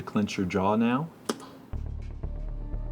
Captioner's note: click